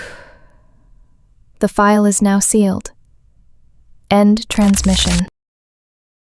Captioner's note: exhales slowly